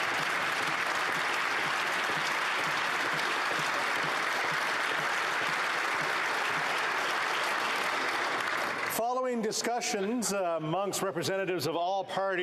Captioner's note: applause